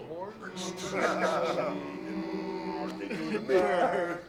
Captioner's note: speakers chuckling